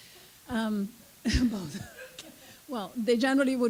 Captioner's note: and audience laughs